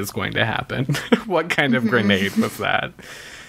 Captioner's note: laughs